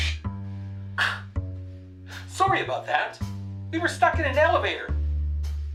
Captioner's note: over walkie talkie